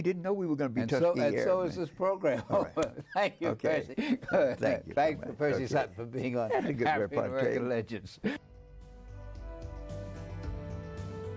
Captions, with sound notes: We didn't know we were gonna be talking here. >>And so is this program. >>All right. >>(laughing) Thank you Percy. Thanks for Percy Sutton for being our "African-American Legends." (gentle music)